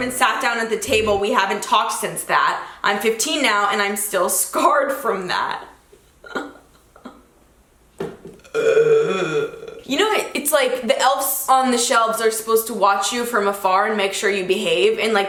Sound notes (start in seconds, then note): 6.2 giggles; 8.4 groans